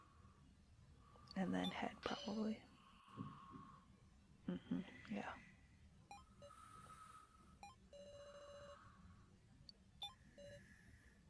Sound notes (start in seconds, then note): none